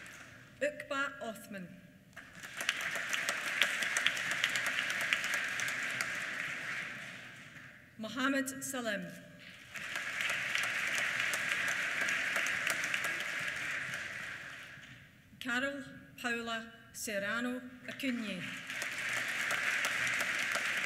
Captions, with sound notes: Uqba Othman. (APPLAUSE) Mohamad Salim. (APPLAUSE) Carol Paola Serrano Acuña. (APPLAUSE)